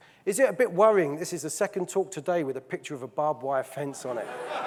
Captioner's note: audience laughing